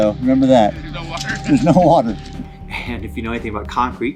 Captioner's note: laughter